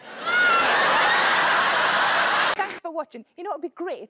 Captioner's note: audience laughing